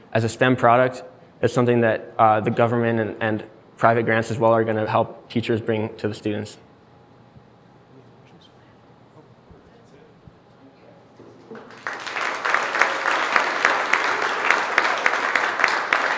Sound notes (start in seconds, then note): 11.4 applauding